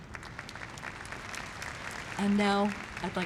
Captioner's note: audience applause